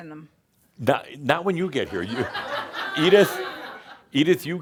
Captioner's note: laughter as someone jumps up to offer her their chair